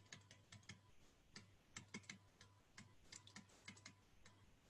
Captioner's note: stylus typing